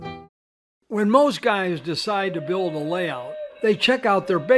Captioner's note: voiceover